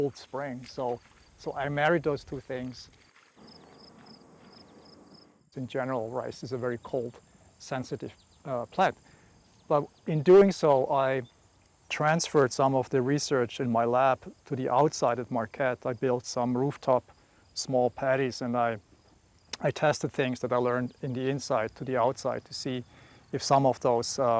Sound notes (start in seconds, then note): 4.6 insects chirping